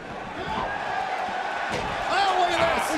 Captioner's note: crowd cheering